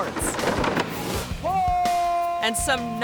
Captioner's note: skateboard clattering; biker howling